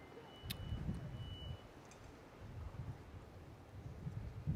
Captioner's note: wind rustling